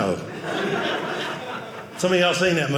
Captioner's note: audience laughing